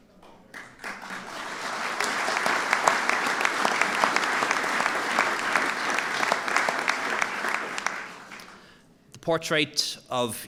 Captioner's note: applause